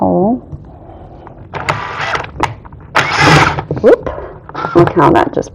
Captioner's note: drilling sound